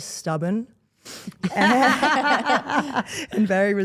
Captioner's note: all laughing